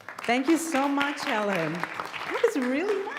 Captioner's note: audience applauds